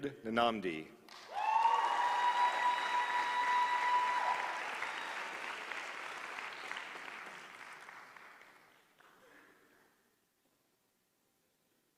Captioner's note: applause